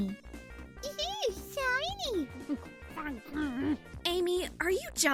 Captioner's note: Amy mocking SNT, grumbling